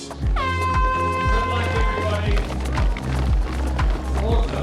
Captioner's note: hooter blares; mellow techno music